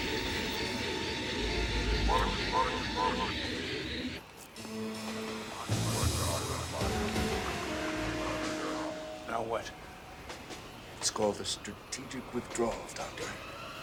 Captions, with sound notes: ( alien command over PA ) Now what? It's called the strategic withdrawal, Doctor.